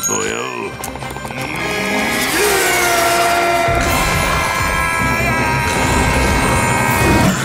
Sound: screaming

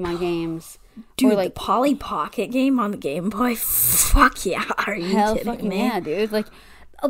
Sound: gasps

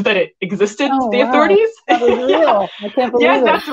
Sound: laughs

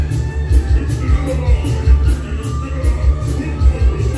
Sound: Admiral Orc speaks gibberish; Admiral Orc laughs

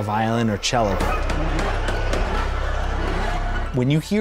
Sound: hammer banging

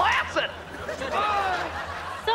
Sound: moaning

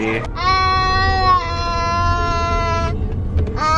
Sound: babbling

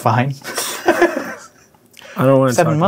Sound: laughing

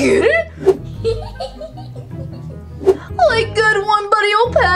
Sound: laughing

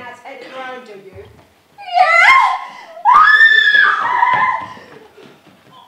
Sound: screams

